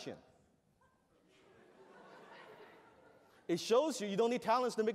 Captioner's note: laughter